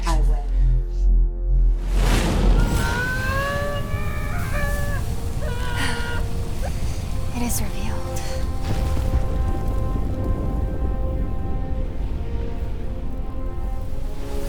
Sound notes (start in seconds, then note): 1.7 exploding; 2.4 groaning; 9.2 dramatic orchestral music